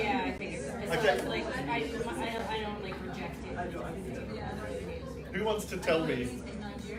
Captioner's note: participants talking to each other